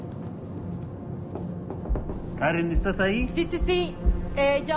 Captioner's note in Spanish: Toques en la puerta